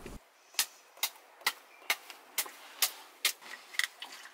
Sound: knife clicks

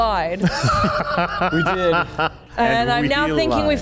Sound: laughs

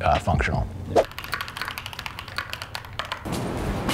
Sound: keyboard clacking

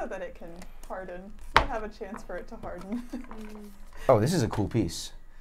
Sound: chuckles

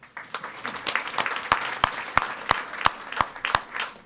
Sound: audience applauding

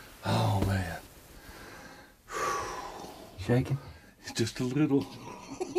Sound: laughs

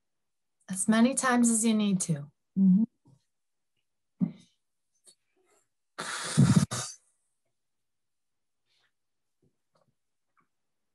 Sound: inhalng and exhaling

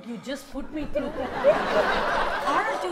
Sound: audience laughs

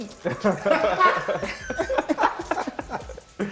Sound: laughter

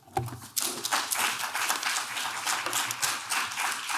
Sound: clapping

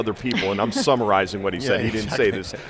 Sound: chuckles

